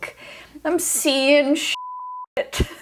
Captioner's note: beep